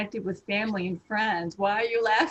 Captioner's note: laughter